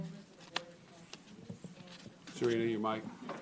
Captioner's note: off mic